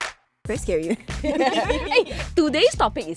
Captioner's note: girls laughing